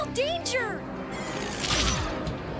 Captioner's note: zapping sound